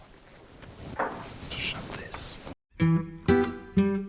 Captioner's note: quietly